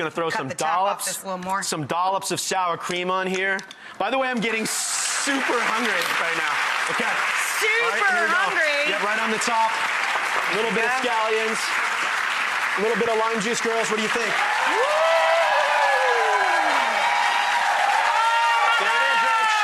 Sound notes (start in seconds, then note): 14.9 audience cheering